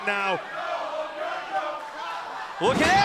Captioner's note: fans chanting